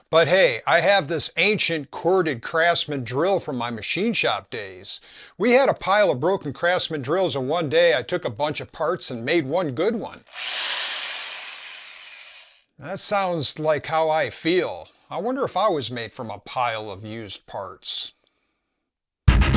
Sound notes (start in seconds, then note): 10.2 drill noise